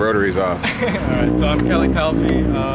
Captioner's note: laughs